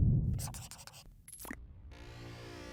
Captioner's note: pencil scribbling